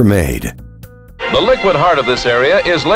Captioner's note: voiceover